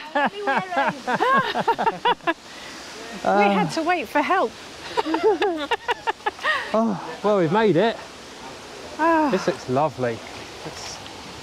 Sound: laughter

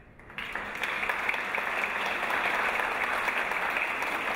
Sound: audience applause

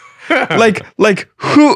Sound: laughing

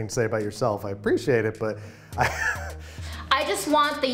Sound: he laughs

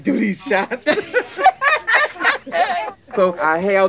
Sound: both laugh

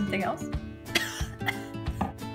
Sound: cough

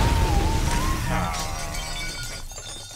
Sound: sighing

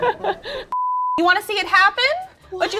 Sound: laughs; graphic beeps

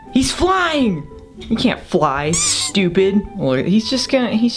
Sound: squeak

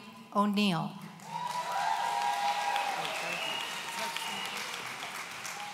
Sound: audience cheering

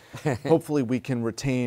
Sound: laughter

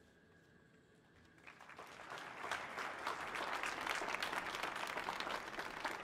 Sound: audience applauding

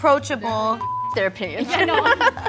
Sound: beep; giggling

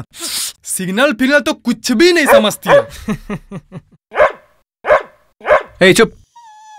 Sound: dog barks

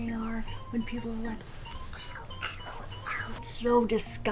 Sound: imitating crunching

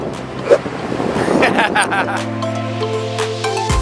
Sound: laughing; upbeat music

